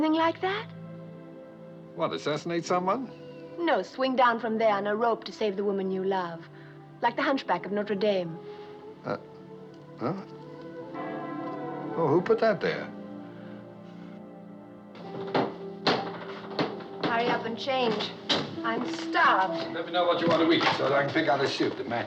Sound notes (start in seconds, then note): 10.9 bell Tolls